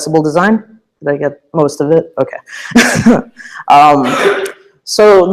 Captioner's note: laugh